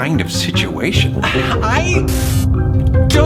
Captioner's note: static hisses; sighs